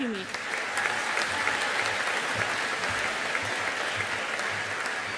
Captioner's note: audience applauding